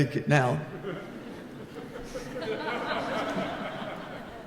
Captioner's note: laughing